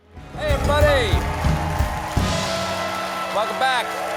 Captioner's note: applause